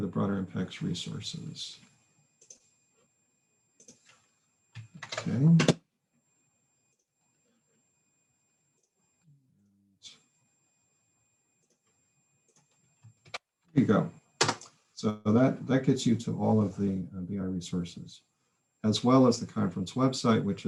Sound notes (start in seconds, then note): 3.8 mouse clicks; 4.7 keyboard typing; 14.4 keyboard types